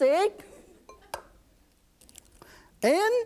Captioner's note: egg cracking